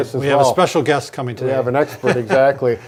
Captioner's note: chuckling